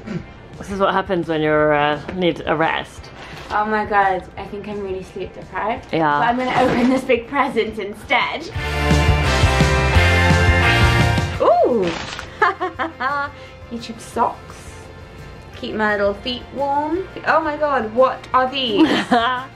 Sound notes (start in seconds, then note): 12.2 laughs; 18.8 laughs